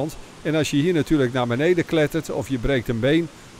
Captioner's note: voiceover